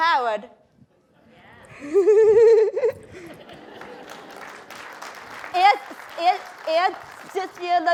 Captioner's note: applause